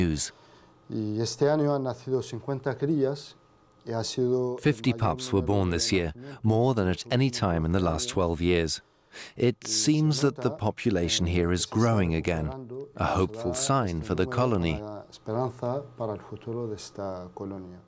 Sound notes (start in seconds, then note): 0.9 speaking Greek